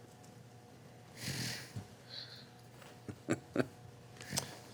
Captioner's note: laughing